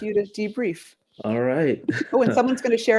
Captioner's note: chuckle